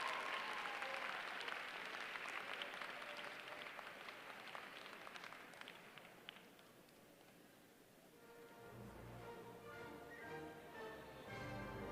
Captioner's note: applause